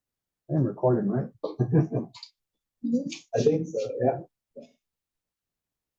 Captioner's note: laugh